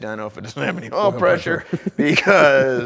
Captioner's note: laughs